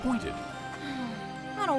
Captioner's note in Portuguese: suspirando